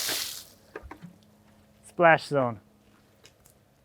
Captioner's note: water splashing